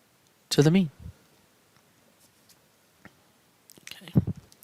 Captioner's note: no Speech Detected